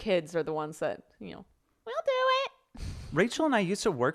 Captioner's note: mimics child's voice